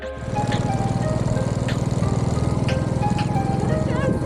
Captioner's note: bike engine